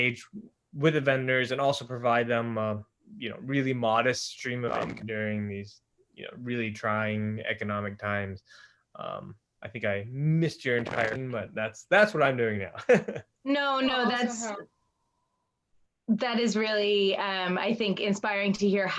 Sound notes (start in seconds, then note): 12.7 laughs